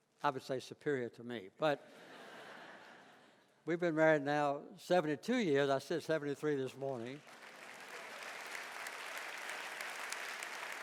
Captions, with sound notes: I would say superior to me but. (laughing) We've been married now 72 years, I said 73 this morning. (audience applauding)